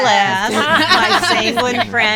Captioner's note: all laughing